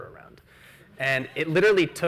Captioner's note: audience laughs